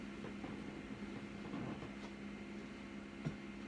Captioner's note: footsteps